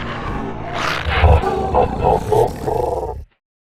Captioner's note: laughs